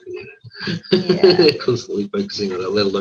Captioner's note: laughs